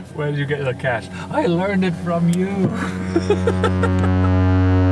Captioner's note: laughing; loud tone